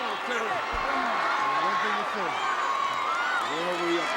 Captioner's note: audience cheering